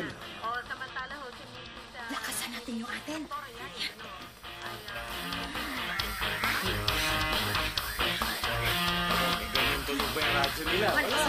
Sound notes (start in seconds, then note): 0.3 woman on radio talking; 5.1 radio volume turning up